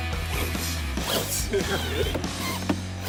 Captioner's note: laugh